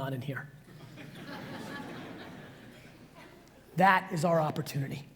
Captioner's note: audience laughs